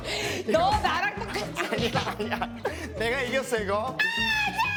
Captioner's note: bickering